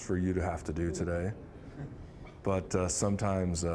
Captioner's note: scattered chuckling